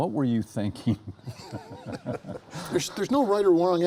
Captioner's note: laughs